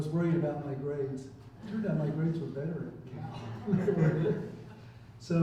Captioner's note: chuckles